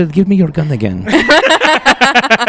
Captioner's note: laughter